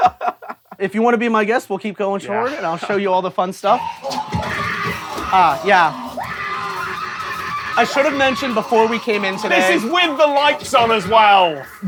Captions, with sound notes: If you wanna be my guest, we'll keep going forward. And I'll show you all the fun stuff. (shrieking, clattering) Ah, yeah. I should have mentioned before we came in today... This is with the lights on as well!